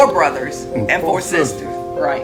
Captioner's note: spoken together